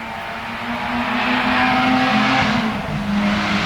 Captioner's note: car engine